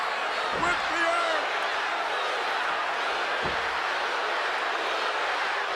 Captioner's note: audience chanting